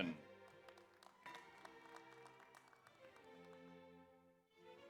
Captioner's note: audience applauds